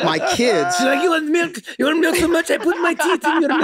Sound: French accent

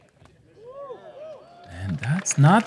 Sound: applause

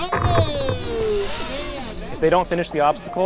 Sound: drone crashing into tunnel

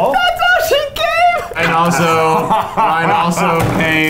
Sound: laughing

